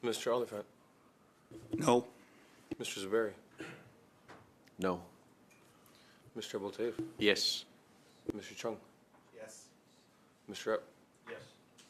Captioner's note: calling of recorded vote